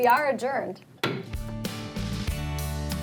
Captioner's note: gavel bangs; upbeat music